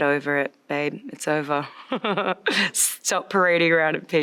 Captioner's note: chuckles